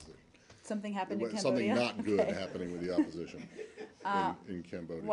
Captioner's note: laughter